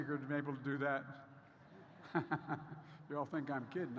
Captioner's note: laughs